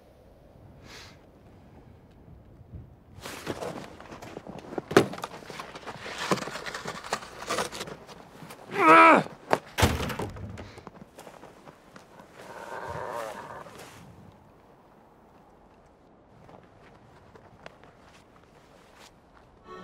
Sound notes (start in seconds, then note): 9.7 thud; 12.4 distant growl